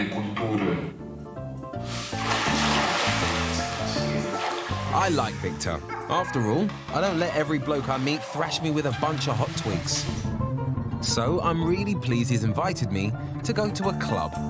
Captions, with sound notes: (lively music) (water splashing) I like Victor. After all, I don't let every bloke I meet thrash me with a bunch of hot twigs. So I'm really pleased he's invited me to go to a club,